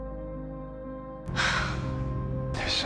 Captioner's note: Abby exhales; voiceover